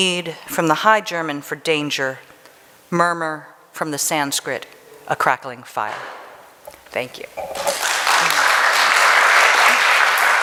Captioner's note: applause